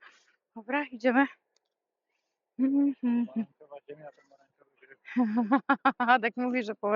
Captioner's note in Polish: śmiech